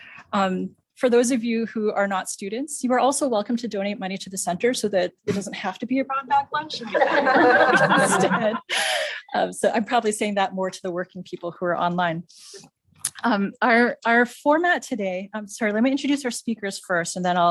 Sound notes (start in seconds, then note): 6.8 laugh